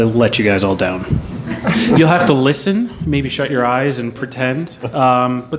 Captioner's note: laughter